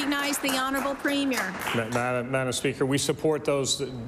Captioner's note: applause